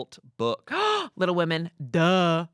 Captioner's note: Amanda gasps